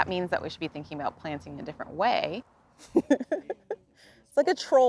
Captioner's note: laughs